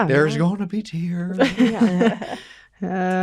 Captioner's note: laughter